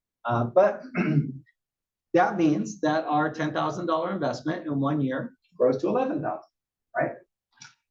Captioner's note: cough